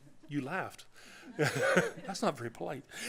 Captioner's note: laughter